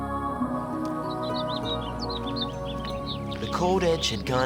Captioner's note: birds chirping